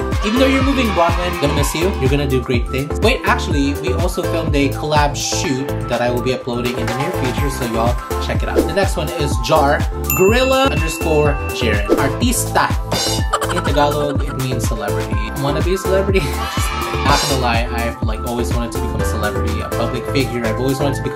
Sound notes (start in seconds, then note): 12.9 animal noise; 16.2 kids cheer